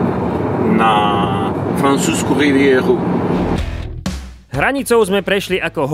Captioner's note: in French accent